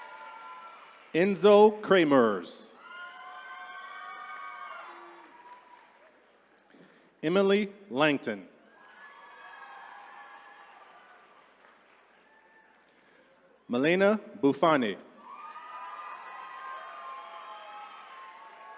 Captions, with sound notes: Enzo Cremers. (attendees cheering) Emily Langton. (attendees cheering) Malena Buﬀagni. (attendees cheering)